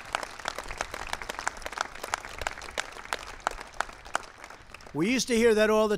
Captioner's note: applause